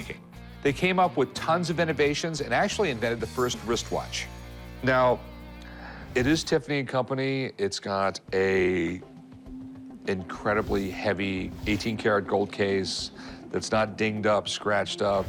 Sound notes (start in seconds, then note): none